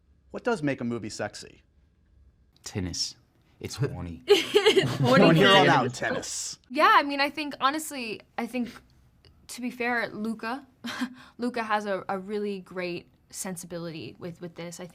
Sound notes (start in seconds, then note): 4.3 laughter